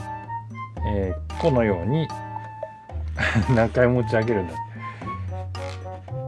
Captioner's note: laughs